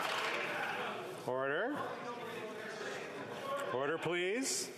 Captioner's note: some Applause